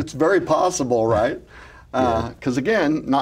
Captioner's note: laughs